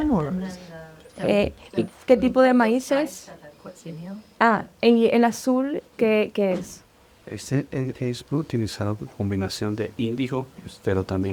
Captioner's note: translator and speaking spanish